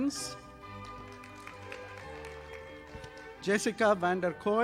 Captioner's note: audience applauding